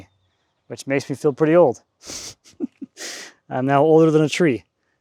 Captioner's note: chuckles